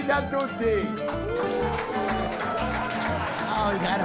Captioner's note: crowd cheers